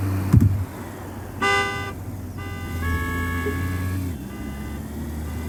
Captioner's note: horns honking